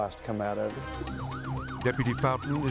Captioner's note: siren wailing